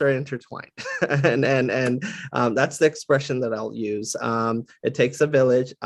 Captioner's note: laugh